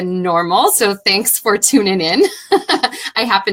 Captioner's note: laughing